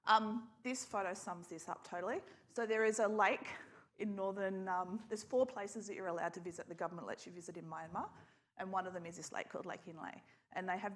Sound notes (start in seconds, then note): none